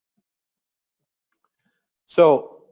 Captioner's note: pause